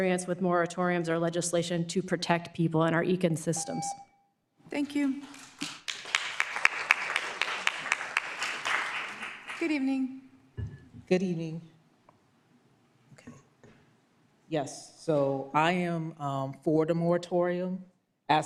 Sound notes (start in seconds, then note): 3.5 beep; 8.6 applause